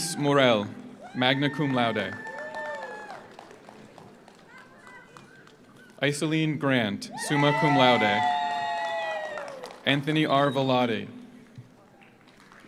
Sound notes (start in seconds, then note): 1.0 audience cheers; 1.2 audience applauds; 7.1 audience cheers; 7.3 audience applauds; 12.0 audience applauds; 12.4 audience cheers